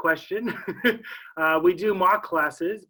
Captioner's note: laughs